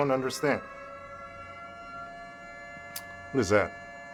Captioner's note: sirens